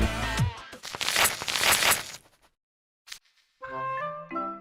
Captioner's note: rip